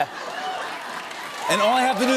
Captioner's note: cheers and applause